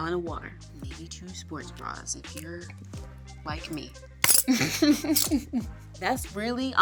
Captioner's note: chuckles